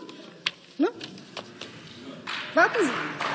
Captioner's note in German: Beifall